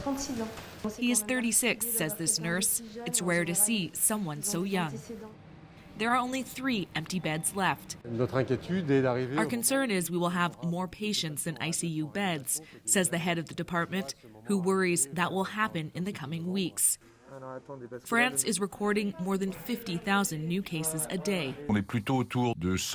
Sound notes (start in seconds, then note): 9.8 speaking French